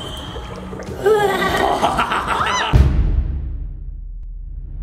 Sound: evil laughing

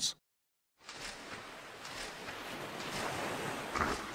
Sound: waves crashing

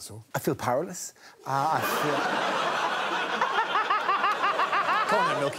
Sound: crowd laughs

